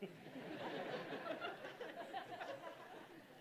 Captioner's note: laughter